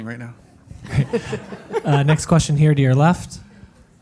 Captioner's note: laugh